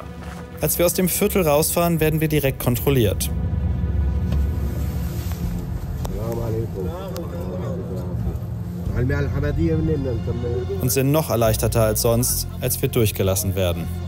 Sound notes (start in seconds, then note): 3.5 dark music; 8.1 the driver speaks in his language